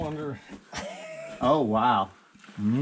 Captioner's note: laughing